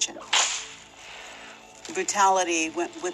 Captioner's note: whip cracks